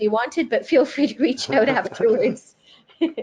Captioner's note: laughs